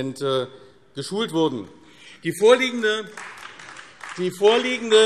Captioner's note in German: Beifall AfD